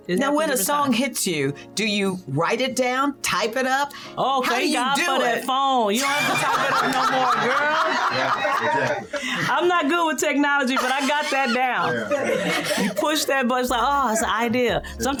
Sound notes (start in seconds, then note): 8.0 laughing